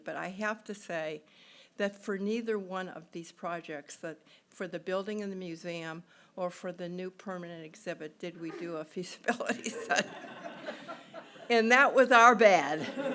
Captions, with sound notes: but I have to say that for neither one of these projects for the building in the museum, or for the new permanent exhibit did we do a feasibility study. (laughing) And that was our bad.